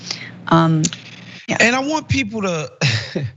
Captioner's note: laugh